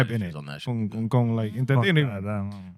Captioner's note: speaking In Foreign Language